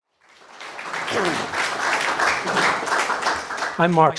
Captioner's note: applause